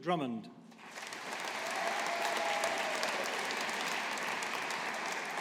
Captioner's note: audience applauding